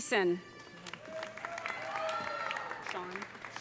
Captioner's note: audience applauding; audience cheering